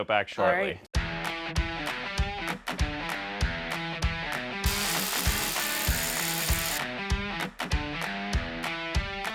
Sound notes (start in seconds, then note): 4.0 bright upbeat music; 4.6 driller whirling